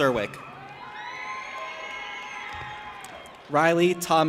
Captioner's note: audience applauding and cheering